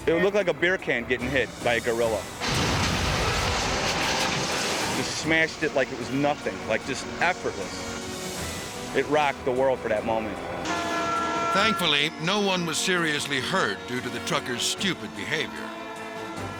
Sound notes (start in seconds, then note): 3.0 train crashes